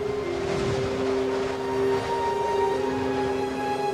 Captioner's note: wind howling